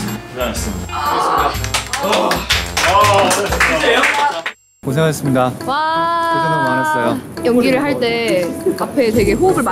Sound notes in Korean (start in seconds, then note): 1.6 박수소리